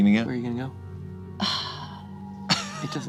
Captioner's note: sighs